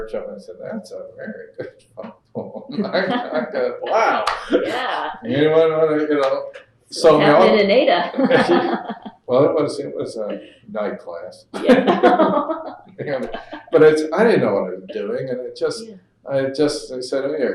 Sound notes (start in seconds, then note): 2.4 laughter; 8.0 laughter